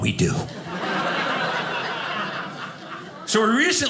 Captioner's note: audience laughing